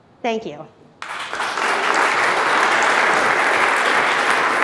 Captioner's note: applauding